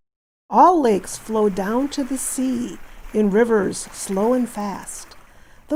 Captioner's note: waves